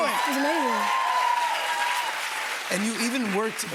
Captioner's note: cheers and applause